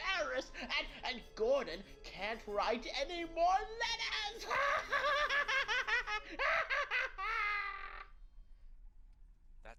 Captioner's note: laughs harder